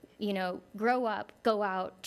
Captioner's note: none